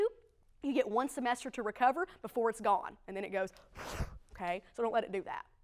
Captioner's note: whoosh